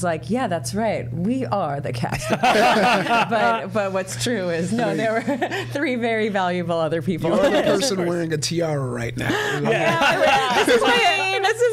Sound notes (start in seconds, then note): 2.2 all laughing; 9.2 all laughing